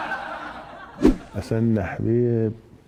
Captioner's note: laughter